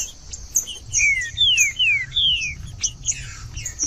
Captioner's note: trinca ferro cantando